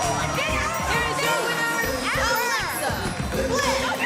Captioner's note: bell ringing